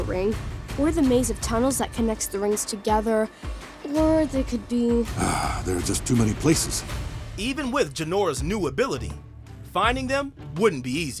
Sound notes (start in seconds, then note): 5.1 sighing